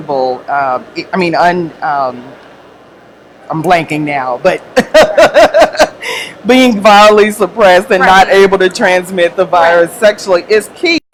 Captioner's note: laugh